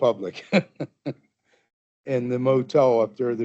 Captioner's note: chuckling